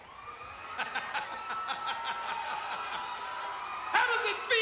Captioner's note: Jerry laughs